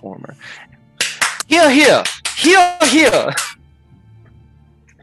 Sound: clapping

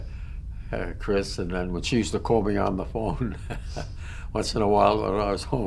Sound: laughter

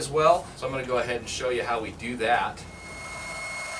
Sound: air blowing noise

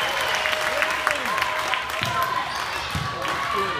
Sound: clapping

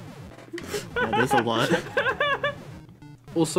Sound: laughs

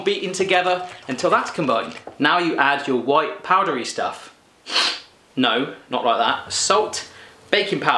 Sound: sniff

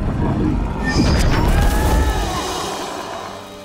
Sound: Ozzie roars

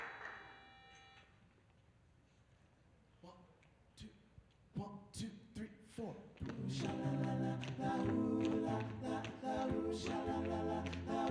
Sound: cheers and applause

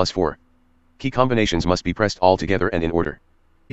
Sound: screen Reader Speaking

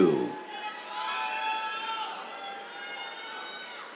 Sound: cheers

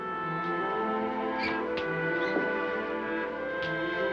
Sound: lock clicking

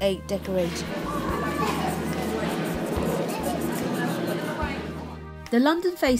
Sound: marker pen squeaking on polystyrene egg

